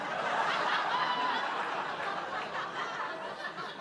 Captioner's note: audience laughing